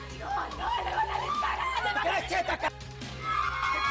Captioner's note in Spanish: Gritos